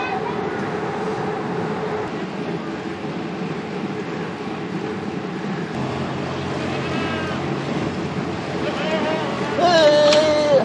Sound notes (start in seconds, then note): 6.4 sheep bleating; 8.6 sheep bleating